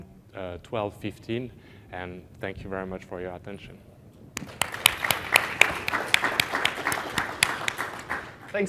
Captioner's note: applause